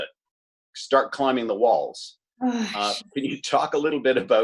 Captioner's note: sighs